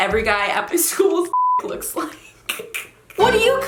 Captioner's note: beep; laughs